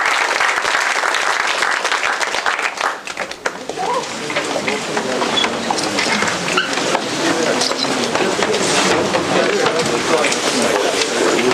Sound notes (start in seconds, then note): 0.0 applause; 3.1 indistinct conversation